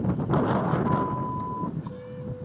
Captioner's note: 1:32 PM CDT beep